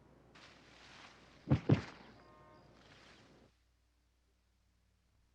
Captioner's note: Chance thuds